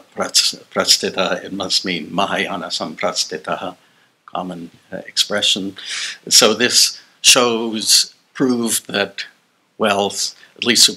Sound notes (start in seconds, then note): 0.0 non-english